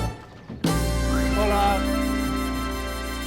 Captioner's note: in Spanish